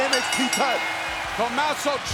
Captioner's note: bell rings